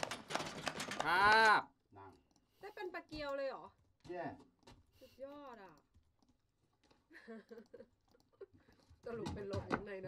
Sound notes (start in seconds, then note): 0.0 applause; 3.0 speaks in a foreign language; 7.0 laughs